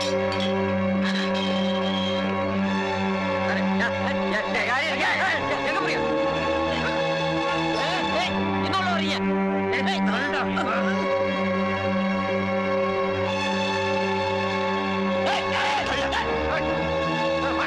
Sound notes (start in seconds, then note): 3.8 indistinct Voices